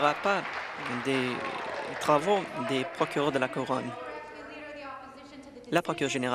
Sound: applause

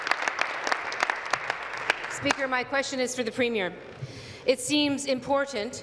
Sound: applause

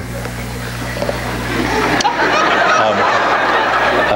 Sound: audience laughs

